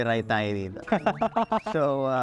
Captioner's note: laughter